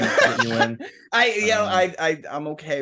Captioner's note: laughing